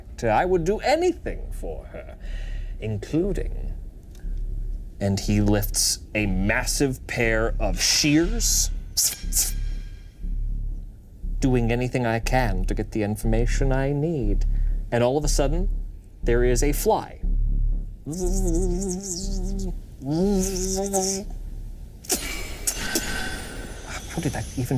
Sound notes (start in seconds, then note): 8.6 shears clanging; 18.0 fly buzzing; 22.2 shears clanging